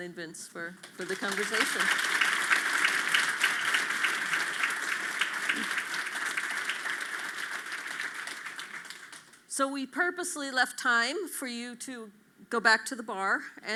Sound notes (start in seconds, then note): 0.8 audience claps